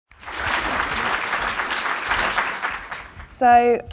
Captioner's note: audience applauding